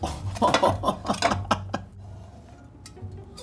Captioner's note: laughing